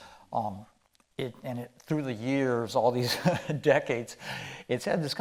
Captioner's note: chuckling